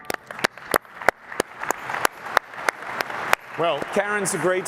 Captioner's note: applause